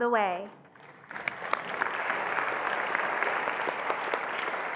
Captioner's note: attendees applauding